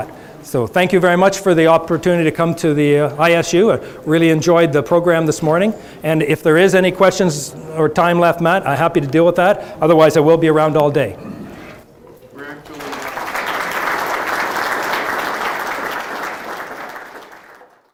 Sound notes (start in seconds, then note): 13.8 audience applause